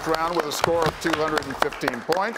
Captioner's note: students applauding